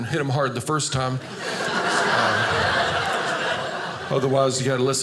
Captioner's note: audience laughing